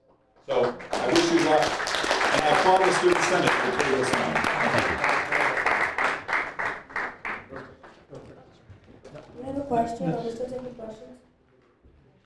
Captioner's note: applause